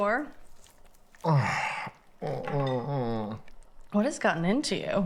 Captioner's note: Oliver groaning